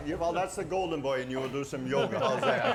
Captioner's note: laughing